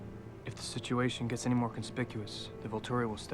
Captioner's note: none